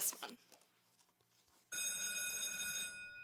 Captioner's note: school bell ringing